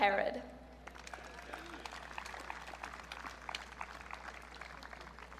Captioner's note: audience cheering